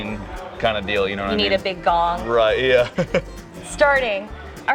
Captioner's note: laughs